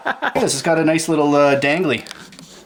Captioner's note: voiceover